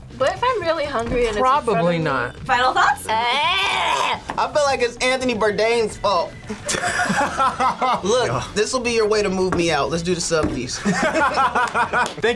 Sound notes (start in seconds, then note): 3.2 gags; 6.5 group laughs; 10.7 both laugh